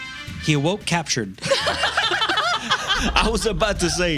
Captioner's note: laughing